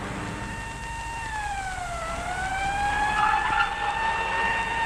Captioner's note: siren wailing; tires squealing